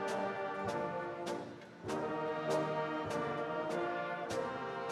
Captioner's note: none